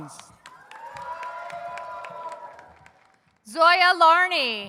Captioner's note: audience cheers